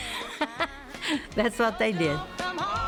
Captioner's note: laughter